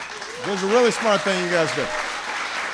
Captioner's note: applause